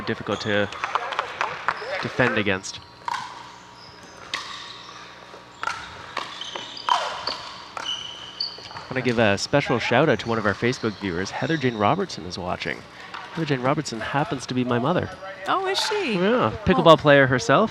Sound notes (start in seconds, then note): 3.1 ball bouncing